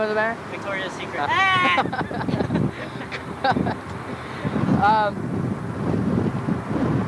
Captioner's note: man laughing